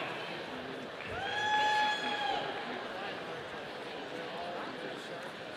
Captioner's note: audience cheering